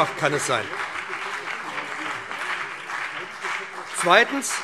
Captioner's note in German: Beifall BÜNDNIS 90/DIE GRÜNEN und CDU